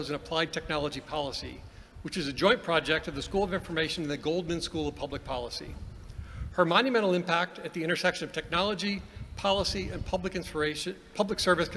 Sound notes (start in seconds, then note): none